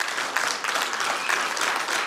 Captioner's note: applause